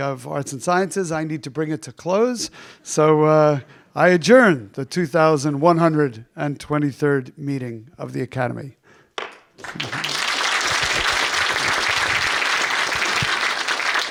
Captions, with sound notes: of Arts and Sciences, I need to bring it to close. So, I adjourn the 2123rd meeting of the academy. (hammer thumps) (audience applauding)